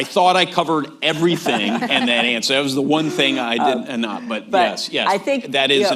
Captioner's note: laughter